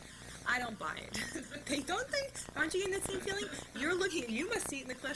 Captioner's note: laughter